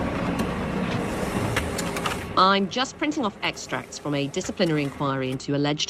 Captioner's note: printer